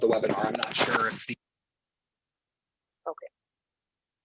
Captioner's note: audio drops